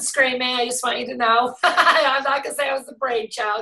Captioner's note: laughs